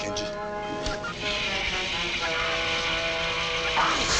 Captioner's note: hissing; Genji shrieking